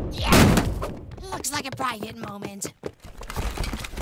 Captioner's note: whispering